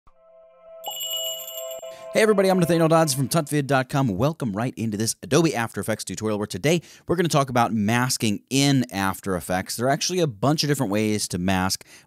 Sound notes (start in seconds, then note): 0.3 magical jingle